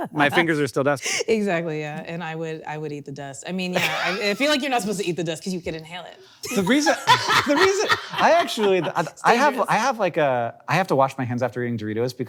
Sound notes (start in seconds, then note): 6.5 laughing